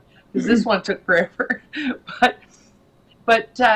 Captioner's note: laughs